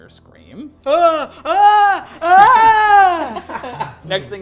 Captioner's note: screams